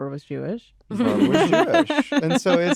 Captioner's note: laughter